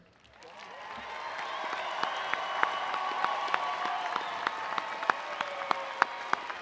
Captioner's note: attendees cheering and applauding